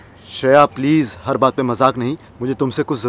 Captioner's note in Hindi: none